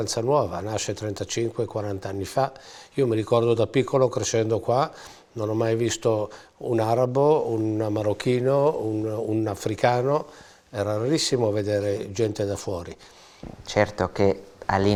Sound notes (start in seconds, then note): none